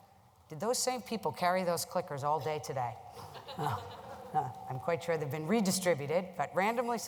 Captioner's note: laugher